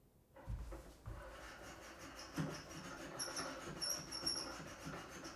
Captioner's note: hand drill squeaking